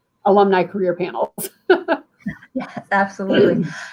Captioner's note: laughter